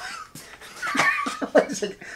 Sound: laughs

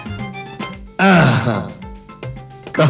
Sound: grunts

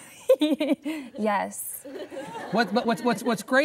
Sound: laughter

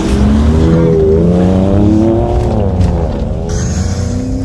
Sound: engine roars

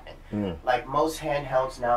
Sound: sounds of agreement

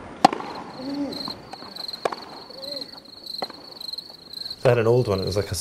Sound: sound of crickets

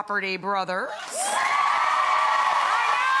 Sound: audience cheering and applauding

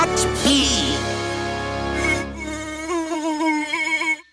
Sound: afraid buzz

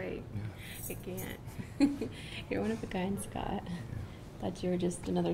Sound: giggling

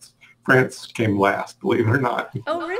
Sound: chuckles

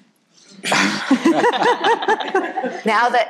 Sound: people laughing

